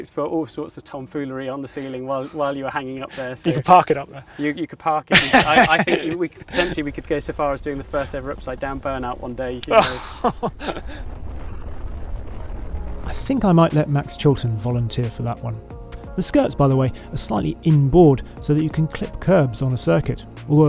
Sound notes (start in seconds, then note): 5.1 laughs; 9.6 laughs